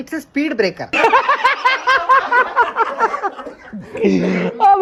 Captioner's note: laughs